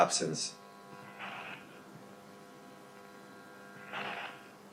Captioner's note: static buzzing